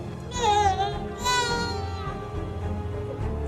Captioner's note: baby cries